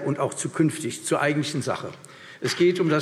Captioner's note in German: Vereinzelter Beifall CDU und BÜNDNIS 90/DIE GRÜNEN